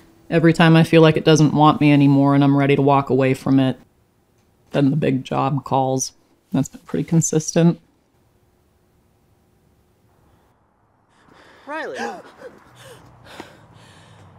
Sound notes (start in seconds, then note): 11.1 gasps